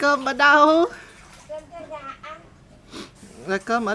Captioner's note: snort